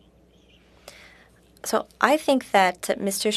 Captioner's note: speaking in French